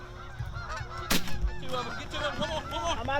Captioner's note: gunshot blares